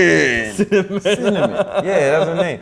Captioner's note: laughs